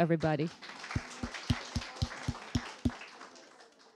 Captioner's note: applause